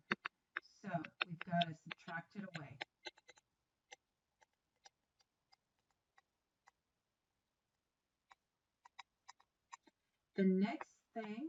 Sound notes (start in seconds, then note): 2.9 writing